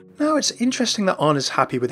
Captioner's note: voiceover